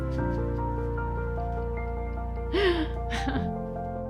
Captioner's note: laughs